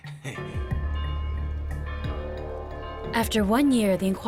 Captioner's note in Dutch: dramatische muziek; klokken luiden